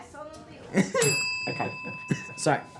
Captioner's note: bell dings